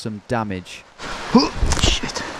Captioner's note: grunting